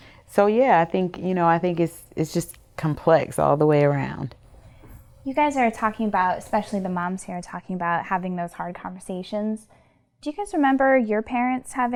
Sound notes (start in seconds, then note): none